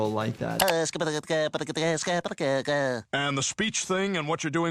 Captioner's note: Popeye stuttering